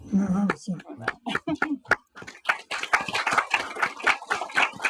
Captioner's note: audience applauding